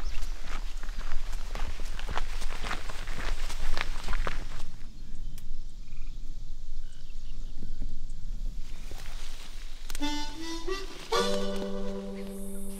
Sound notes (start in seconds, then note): 0.0 footsteps pattering; 4.8 birds chirping; 10.0 gentle blues music